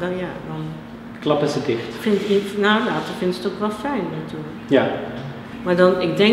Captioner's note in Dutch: lacht